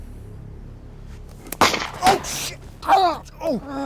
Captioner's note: guns fire